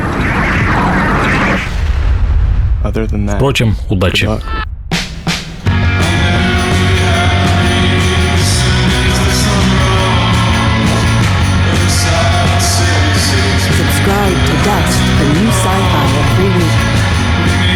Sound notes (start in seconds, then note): 0.0 increased air whooshing sound; 1.7 booming sound effect; 5.1 upbeat music